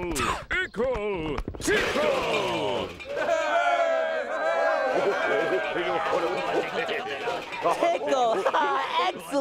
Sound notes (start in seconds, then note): 3.3 crowd cheering; 4.8 laughing